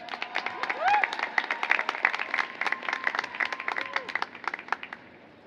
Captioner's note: applause